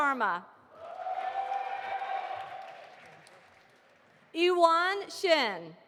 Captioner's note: audience applauding